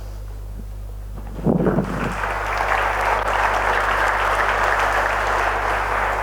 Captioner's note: applause